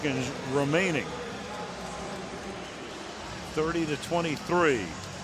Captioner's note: pa announcement